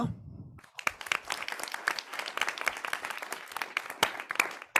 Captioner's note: audience clapping